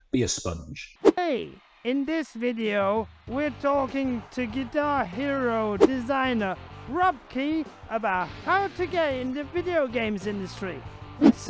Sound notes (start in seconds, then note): 1.0 air whooshes; 3.9 upbeat rock music; 5.8 air whooshes